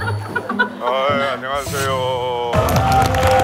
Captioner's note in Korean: 동굴 보이스